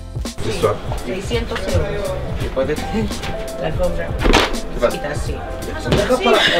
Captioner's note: speaking foreign language